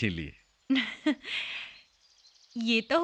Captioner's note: chuckling